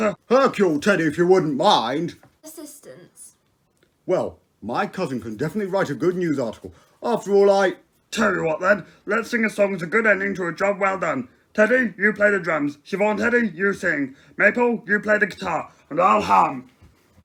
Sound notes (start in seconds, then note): none